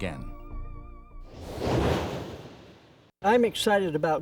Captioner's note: wind blows